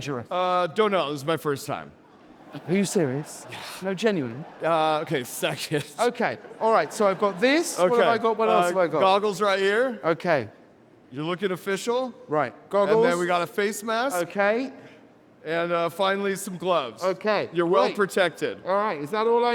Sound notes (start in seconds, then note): 1.8 audience laughing